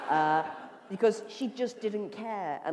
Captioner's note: laughter